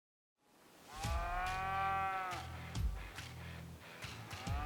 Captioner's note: cow moos; cow moos